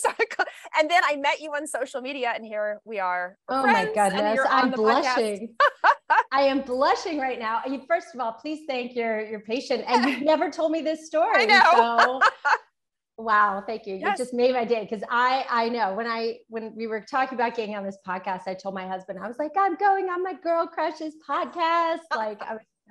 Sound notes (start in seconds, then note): 11.4 laughs